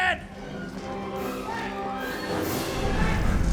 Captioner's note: roaring